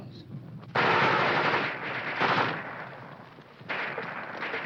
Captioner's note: guns firing